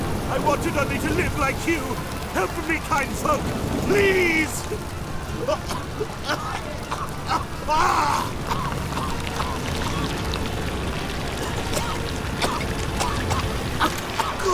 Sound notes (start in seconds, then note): 5.3 hacking coughs; 11.4 coughing